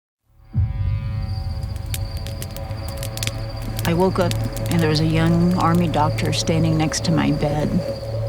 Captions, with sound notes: (crickets chirping) (ominous music) (fire crackling) - I woke up and there was a young army doctor standing next to my bed